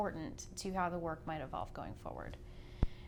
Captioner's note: voice muffled